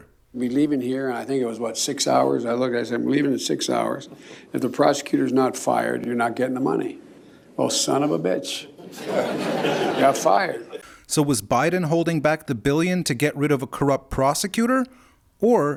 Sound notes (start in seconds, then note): 8.8 laughter